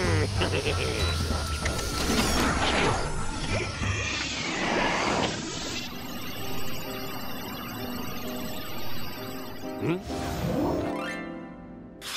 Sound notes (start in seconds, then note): 3.6 suction noise; 5.8 electric whir